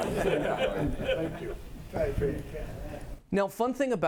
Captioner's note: audience chatter